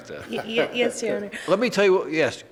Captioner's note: man laughs